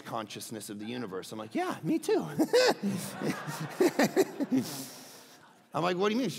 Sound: laughs; crowd laughing

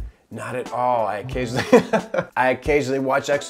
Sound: cameraman laughs

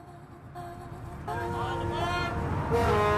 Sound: ferry horn

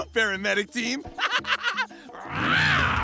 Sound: laughing

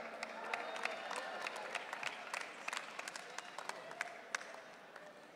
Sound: audience cheering

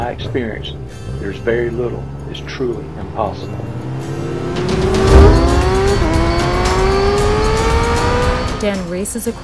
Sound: sounds of engine increases in volume

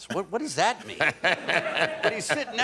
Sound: laughter

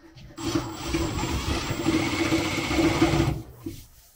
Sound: drill buzzing

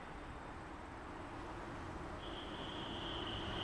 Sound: traffic rumbles in the distance

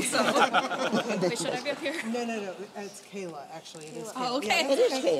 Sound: laughter

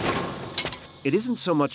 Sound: weapons clinking

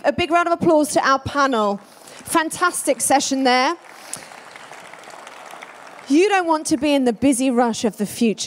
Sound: applause

